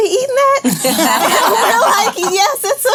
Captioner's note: laughing